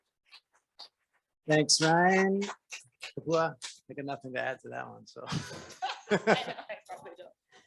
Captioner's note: laughs